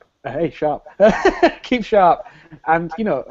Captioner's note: laughs